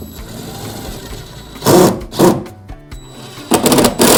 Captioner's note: drill whirs